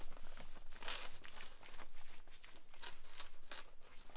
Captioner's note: brush rubbing